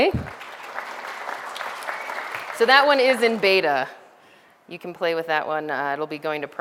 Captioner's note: background audience applause sounds